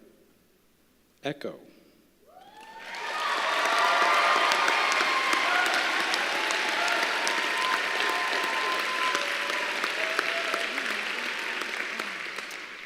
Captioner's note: applause